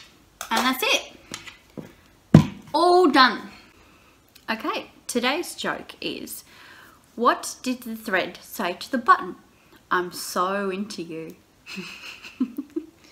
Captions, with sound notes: and that's it! (BAM!) All done! Ok, today's joke is What did the thread say to the button? I'm so into you. <3